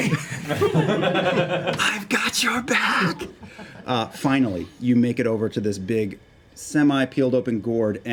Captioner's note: whispers